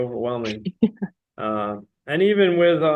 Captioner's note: laughing